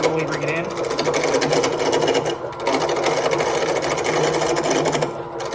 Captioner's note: lathe grinding